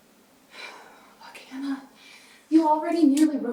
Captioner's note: sighs